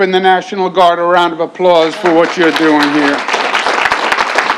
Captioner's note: applause